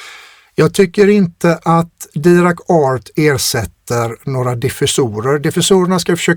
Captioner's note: scoffs